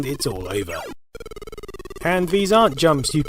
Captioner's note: death sound